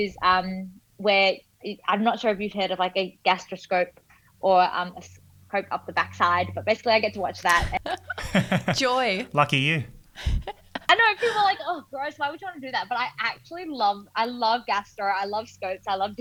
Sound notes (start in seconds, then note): 7.5 laughing